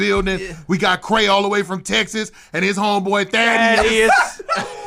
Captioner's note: laughter